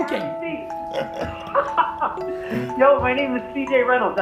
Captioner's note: laughter